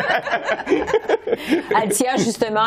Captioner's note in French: rires